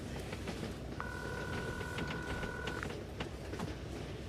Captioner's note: ringing